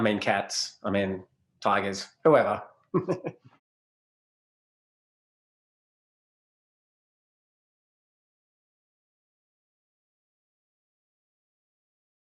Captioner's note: laughs